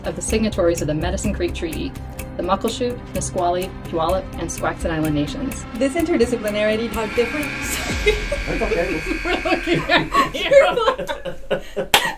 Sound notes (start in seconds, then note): 7.5 laughs; 7.6 everyone laughs